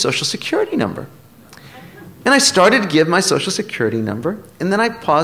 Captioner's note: laughter